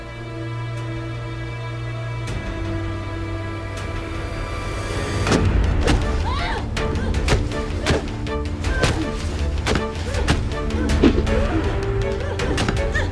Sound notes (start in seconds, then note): 4.0 suspenseful music; 5.2 thudding; 5.3 dramatic music; 6.2 Gabriella grunts